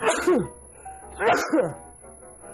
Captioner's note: sneezing